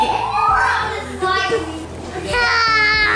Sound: children playing

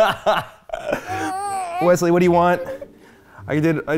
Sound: laughs loudly; whimpers

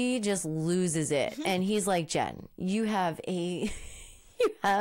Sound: laughing

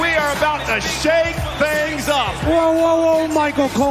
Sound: cheers and applause

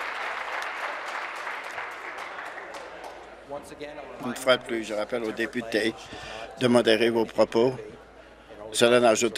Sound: applause

